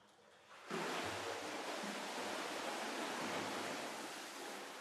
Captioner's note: water splashing